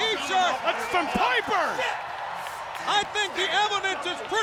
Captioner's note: audience cheers